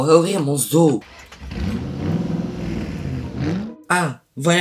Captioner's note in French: Bruit de voiture